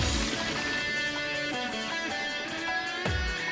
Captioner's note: train was leaking diesel in the background